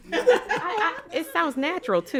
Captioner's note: all laugh